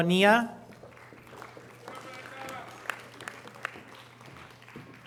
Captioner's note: audience applause